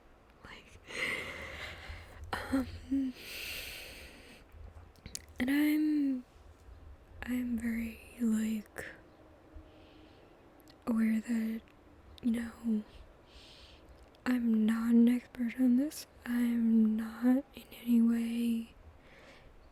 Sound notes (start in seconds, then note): 1.1 laughs